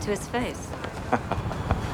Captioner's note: laughing